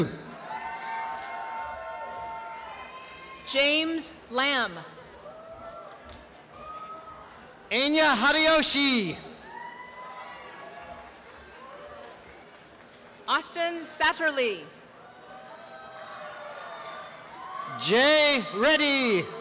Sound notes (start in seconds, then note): 0.3 applause and cheering; 4.9 applause and cheering; 9.5 applause and cheering; 14.7 applause and cheering